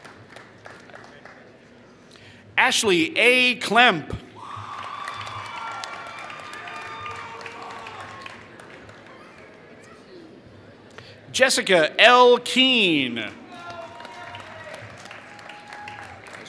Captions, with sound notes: Ashley A. Clemp [Applause] Jessica L. Keen [Applause]